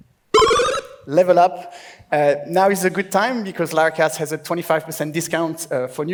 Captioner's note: bubbles